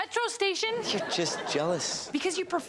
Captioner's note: audience laughs